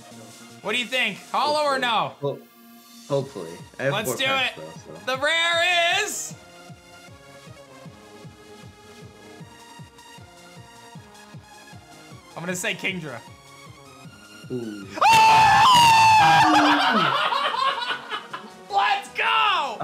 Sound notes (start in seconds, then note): 14.9 screams; 16.2 laughs